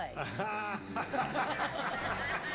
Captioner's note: all laughing